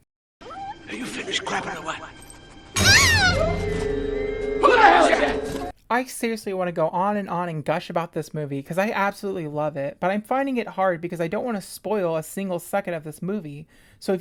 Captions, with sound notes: Are you finished crapping or what? *scream* Who the hell is that?! I seriously want to go on and on and gush about this movie. Cause I absolutely love it. But I’m finding it hard because I don’t want to spoil a single second of this movie.